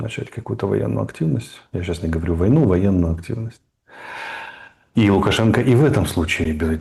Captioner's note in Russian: вздыхает